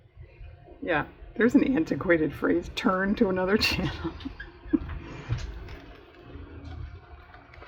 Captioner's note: laughs